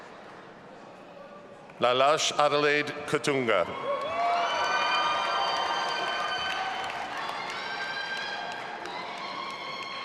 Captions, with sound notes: Lalage Adalaide Katunga. (audience applauding and cheering)